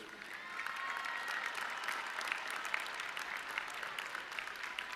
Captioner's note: audience cheering